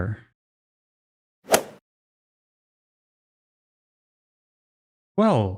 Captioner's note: golf ball hit sound effect